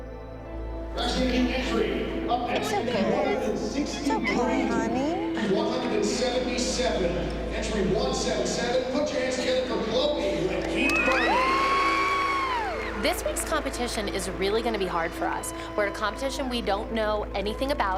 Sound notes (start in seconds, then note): 11.1 cheering and applause